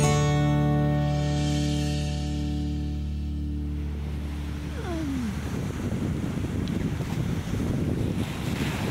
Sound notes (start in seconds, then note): 2.6 music fades out, transitioning into sound of waves